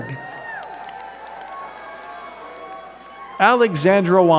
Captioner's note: crowd cheering and clapping